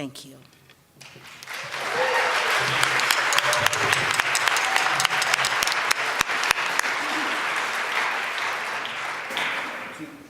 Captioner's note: applause